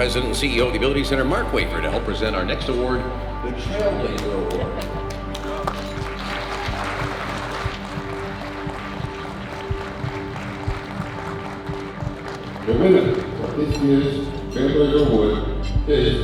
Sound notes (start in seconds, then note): 5.1 applause; 8.0 heartbeat grows louder